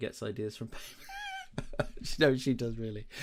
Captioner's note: laughs